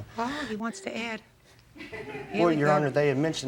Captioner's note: group member laughs